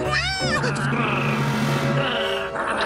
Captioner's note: growls, barks